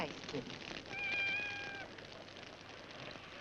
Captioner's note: cat meows